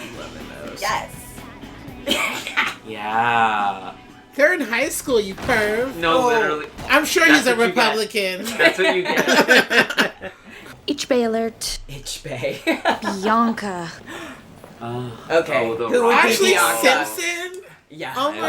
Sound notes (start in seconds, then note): 3.0 laughs; 8.4 everyone laughter; 12.5 laughter